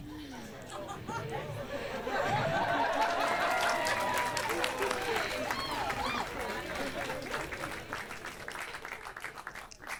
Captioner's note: nervous laughter and growing applause from audience